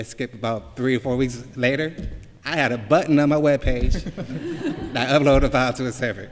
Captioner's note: laughter